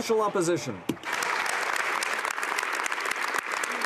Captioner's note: some Applause